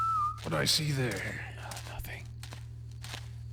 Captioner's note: whispers